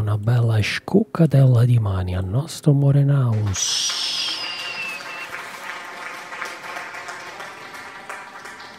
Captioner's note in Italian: Applauso